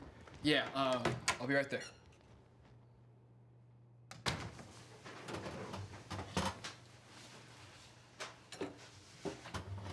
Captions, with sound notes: Yeah, uh, I'll be right there. (door closes)